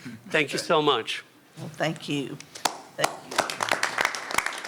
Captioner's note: applause